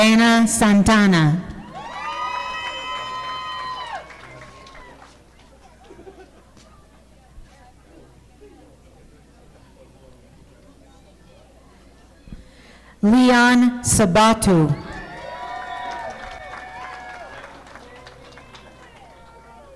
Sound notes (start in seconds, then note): 1.7 audience applauding; 14.9 audience applauding